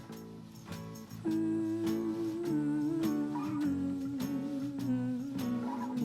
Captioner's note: humming